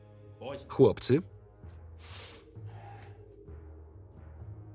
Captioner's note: sniffles